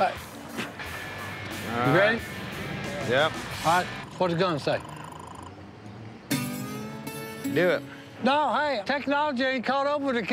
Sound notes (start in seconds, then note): 4.0 radar gun chirping